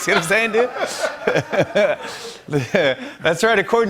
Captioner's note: laughter